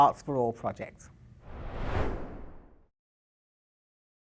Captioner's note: screen swooshing